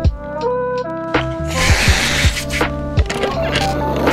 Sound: continued screaming

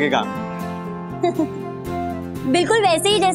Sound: giggling

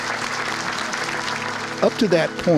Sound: applause

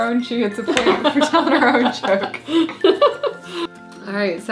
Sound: both laughing

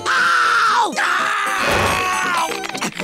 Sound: groaning

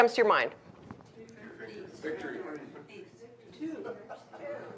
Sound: audience mumbling

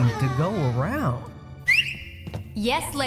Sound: whistle

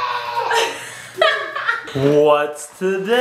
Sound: mom laughs

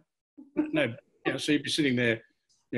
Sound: laughs

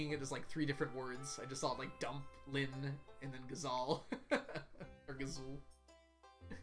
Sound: laughs

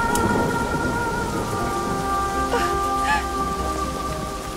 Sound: weeping

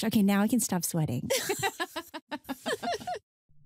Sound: laughter

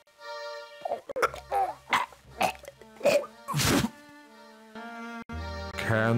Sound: throws up

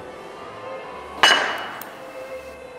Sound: glass falling

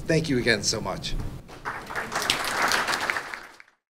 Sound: applause

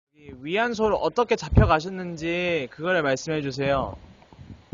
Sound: speaking foreign language

